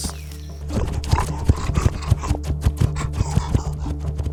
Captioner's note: wolf snarls